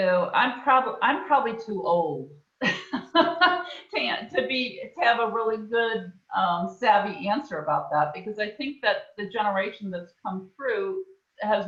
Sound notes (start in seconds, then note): 2.7 laughs